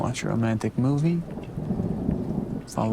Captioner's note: thunder rumbles